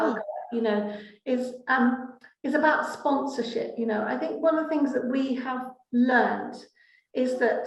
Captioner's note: laughing